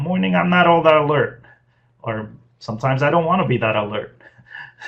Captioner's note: laughs